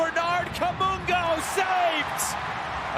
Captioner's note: crowd cheering